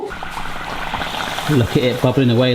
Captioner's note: oil boiling